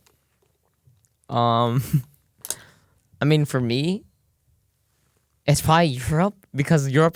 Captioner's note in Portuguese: risos